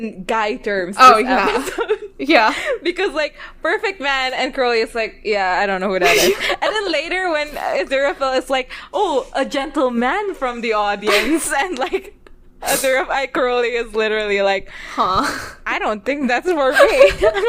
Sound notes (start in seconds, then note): 6.0 laughs; 11.1 laughs; 16.7 both laugh